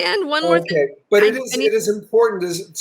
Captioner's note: static drowns out